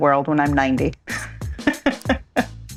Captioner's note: laughs